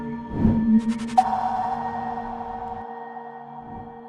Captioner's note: icon pings